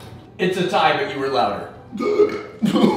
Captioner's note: burps